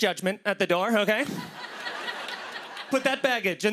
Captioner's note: laughter